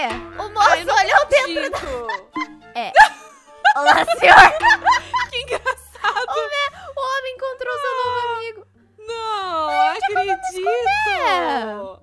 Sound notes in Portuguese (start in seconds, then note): 2.8 Risadas